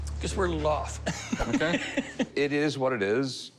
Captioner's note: laughs